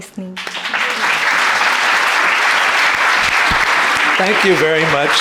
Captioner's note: audience applauding